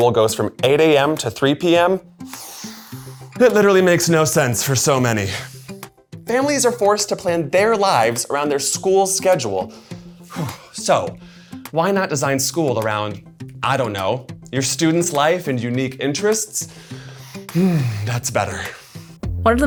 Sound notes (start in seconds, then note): 2.2 inhales; 10.2 sighs